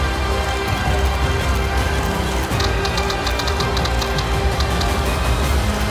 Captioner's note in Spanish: Clic de las cámaras